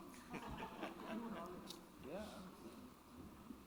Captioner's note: chuckling